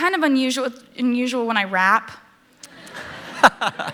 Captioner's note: laughter